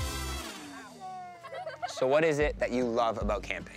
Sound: laughing

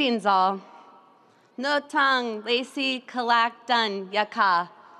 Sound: speaking in Native language

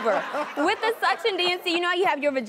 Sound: audience laughing

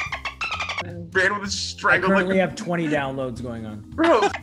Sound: laugh

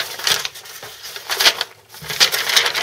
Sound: paper crinkles

